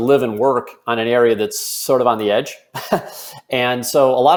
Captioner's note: chuckles